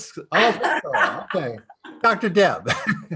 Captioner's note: laughing